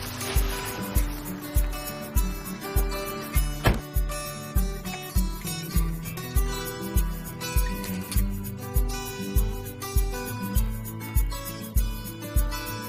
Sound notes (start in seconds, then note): 0.0 bags rustling; 3.6 door closes